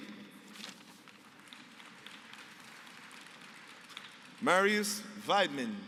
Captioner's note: applause